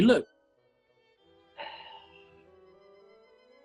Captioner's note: sighs